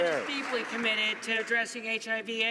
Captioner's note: some Applause